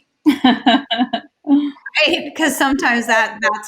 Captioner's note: laughs